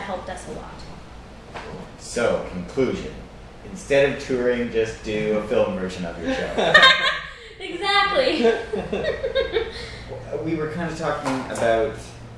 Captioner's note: laughter